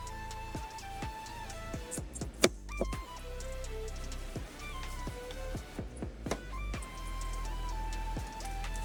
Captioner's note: crackling